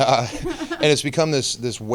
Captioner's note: laughing